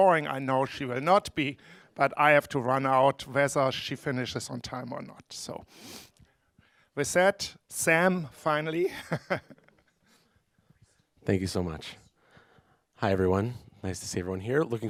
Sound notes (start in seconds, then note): 8.9 laughing